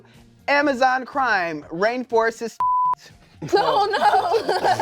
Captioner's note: beep; laughs